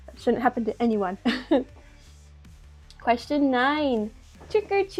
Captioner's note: small laugh